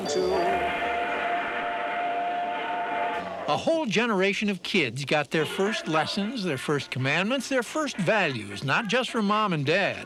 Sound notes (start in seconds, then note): 0.0 train whistle blows